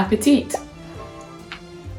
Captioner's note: bubble pops; chews noisily